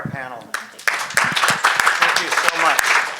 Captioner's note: audience applauds